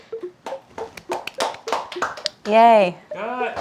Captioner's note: applause